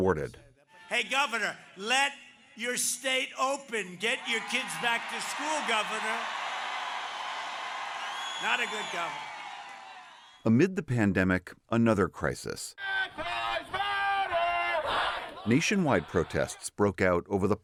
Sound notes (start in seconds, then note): 6.1 cheering and applause